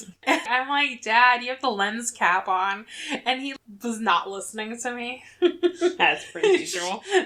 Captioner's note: laughs